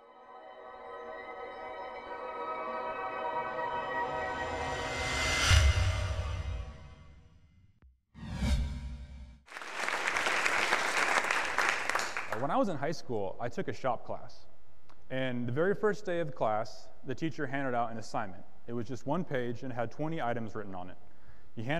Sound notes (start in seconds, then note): 0.0 serene music; 9.5 audience applause